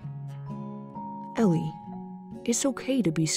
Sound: voiceover

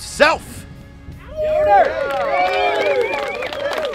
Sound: cheering

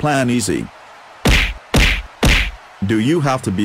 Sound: thud, Thud, Thud

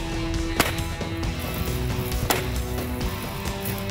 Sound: gunshots ring

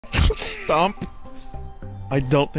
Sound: laughing

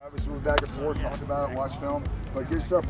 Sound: indistinct Chatter

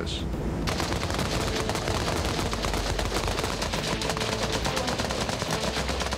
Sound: gun fires

